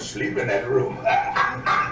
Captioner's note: laughs